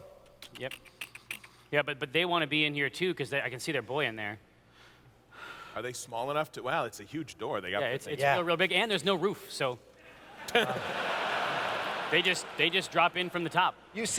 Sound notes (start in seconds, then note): 10.4 laughter